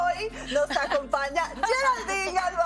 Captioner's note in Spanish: risas